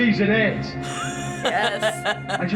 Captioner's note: laughs